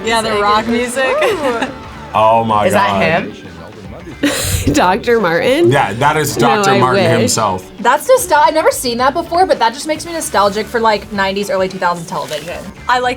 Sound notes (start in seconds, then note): 4.8 laughs